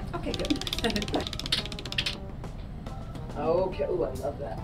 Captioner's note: wheel clicking